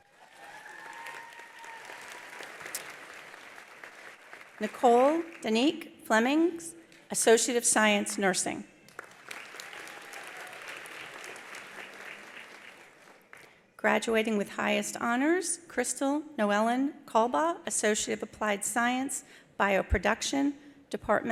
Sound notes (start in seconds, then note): 0.0 attendees cheering; 0.0 attendees applauding; 8.8 attendees applauding; 9.2 attendees cheering